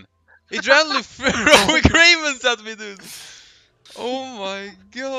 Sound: hahahaha

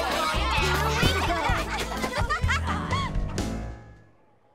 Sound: chattering; laughing

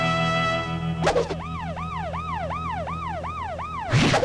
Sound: beeping

